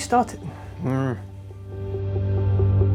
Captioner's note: groans